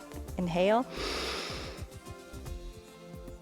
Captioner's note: inhales